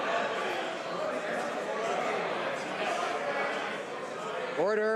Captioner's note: some Applause